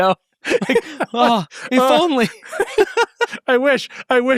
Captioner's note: laughs